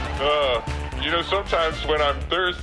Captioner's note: audience laughing